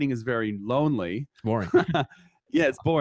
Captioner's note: laughing